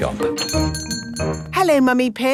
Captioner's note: doorbell chiming